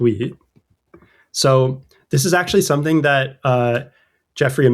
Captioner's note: uh